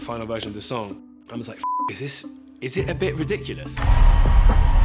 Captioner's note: beep